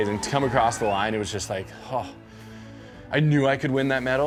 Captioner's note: sigh